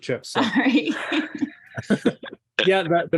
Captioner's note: chuckles